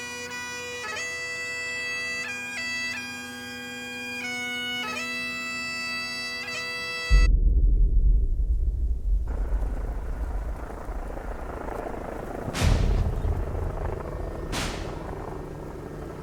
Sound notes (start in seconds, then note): 9.1 helicopter rumbling; 12.8 tense music